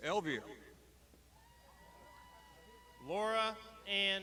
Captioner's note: crowd shouting